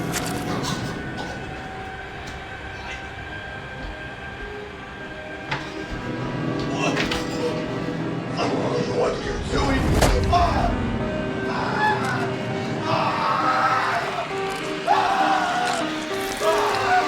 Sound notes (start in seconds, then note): 0.1 tense electronic music; 12.8 Alex screaming